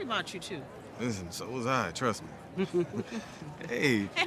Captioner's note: chuckles